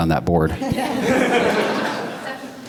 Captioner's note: laughter